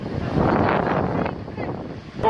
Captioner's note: background talking